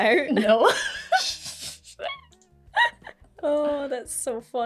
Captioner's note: gay laughter